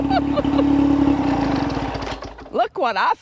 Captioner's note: engine shuts off